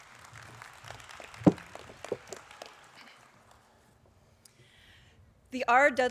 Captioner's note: applause